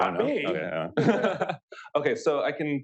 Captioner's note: laughter